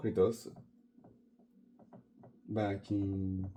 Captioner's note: silent writing on the board